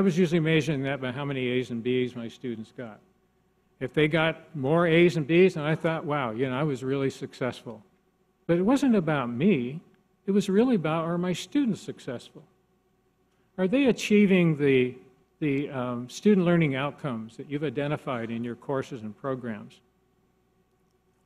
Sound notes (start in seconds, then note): none